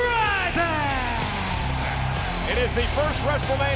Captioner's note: crowd cheering